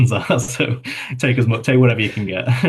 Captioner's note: chuckles